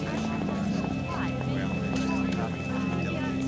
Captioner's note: none